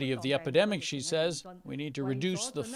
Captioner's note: speaking foreign language